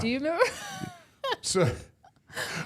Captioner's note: laughs